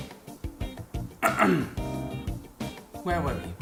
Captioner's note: clearing throat